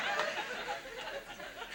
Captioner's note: audience laughs